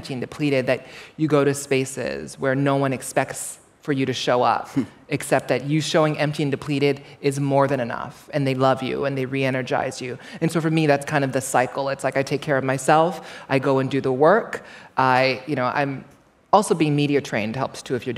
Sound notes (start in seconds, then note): none